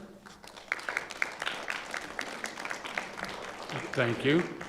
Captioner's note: audience applauding